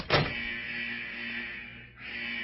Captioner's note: alarm blaring